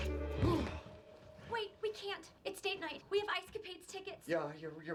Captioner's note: grunts